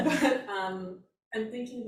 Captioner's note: all laugh